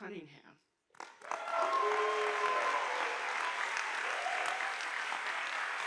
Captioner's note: audience applauding